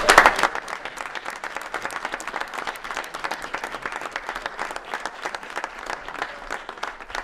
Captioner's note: applause